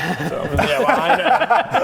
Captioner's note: rebellious laughter